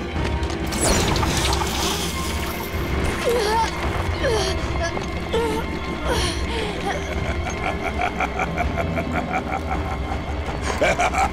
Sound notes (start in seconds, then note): 3.1 groaning; 6.1 laughing